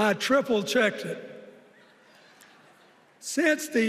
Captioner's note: laughter